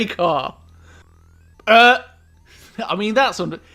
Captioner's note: shock